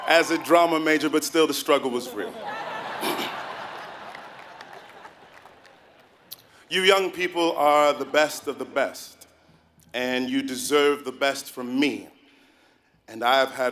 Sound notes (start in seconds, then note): 4.4 laughing